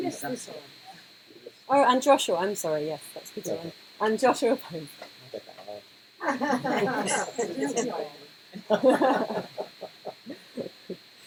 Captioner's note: laughter